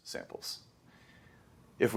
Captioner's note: inhales